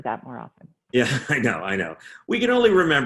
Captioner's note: chuckling